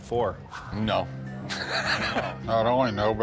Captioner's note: laughs